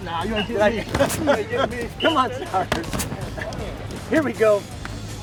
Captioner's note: coach laughs